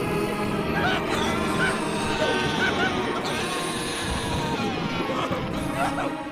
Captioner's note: beastly groaning; Old Man Hampton screaming